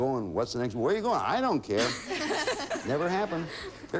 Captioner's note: audience laughing